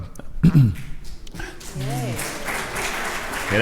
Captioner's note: crowd applauds